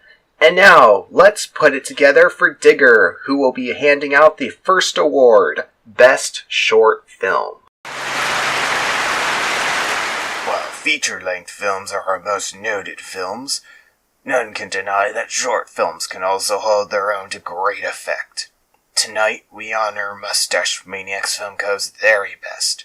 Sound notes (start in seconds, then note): 8.0 clapping